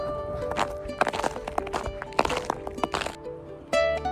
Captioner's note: snow CRONCH sounds